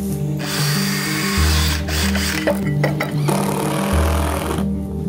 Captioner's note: various work sounds